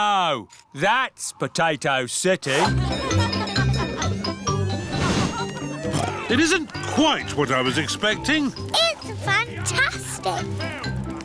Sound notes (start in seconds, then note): 2.6 cheerful jingling; 6.3 oinks